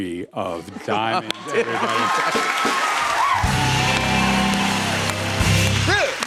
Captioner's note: cheers and applause